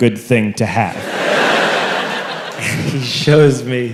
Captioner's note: crowd laughs